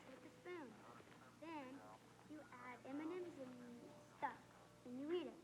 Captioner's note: chatter continues